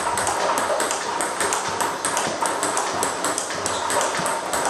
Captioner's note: ball ping pong hitting continues